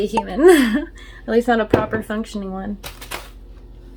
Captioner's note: laughs